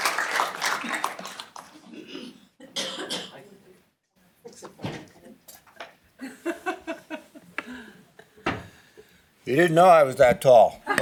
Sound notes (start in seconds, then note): 6.0 laughs